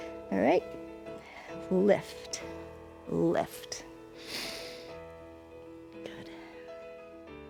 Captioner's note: inhales